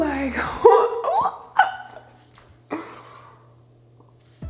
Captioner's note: squealing